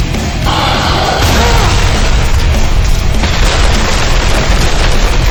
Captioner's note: explosion booming